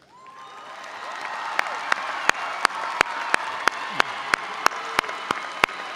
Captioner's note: audience cheering and applauding